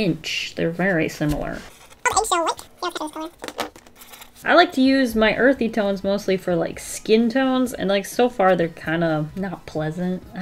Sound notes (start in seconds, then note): 1.4 incoherent sped up chipmunk talk